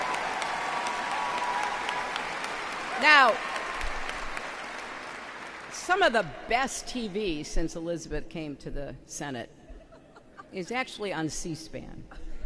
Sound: applause

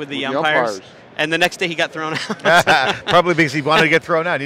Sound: laughs

